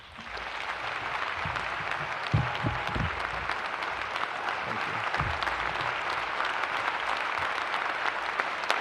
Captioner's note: applause; applause